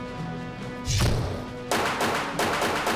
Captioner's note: gun fires